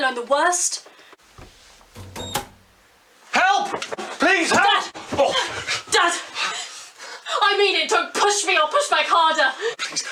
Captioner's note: letterbox sounds